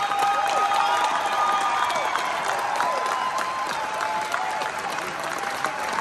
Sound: crowd cheers

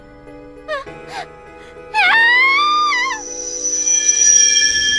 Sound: screams

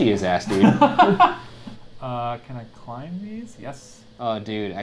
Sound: laughs

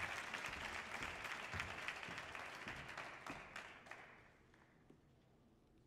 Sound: audience applause continues

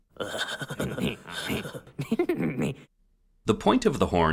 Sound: juvenile laughing

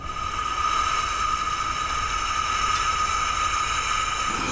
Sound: propane running

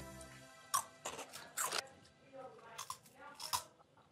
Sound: crunching

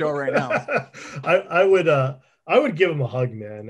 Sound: laughs

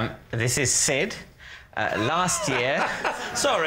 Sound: laughs

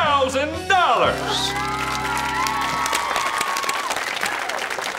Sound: cheering, applauding

